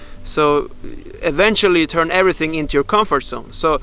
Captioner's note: none